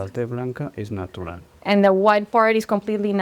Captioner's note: speaking spanish